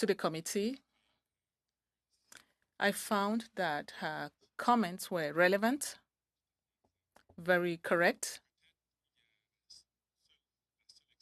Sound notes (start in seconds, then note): 2.9 speaking French